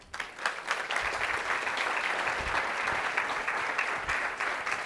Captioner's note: audience applauding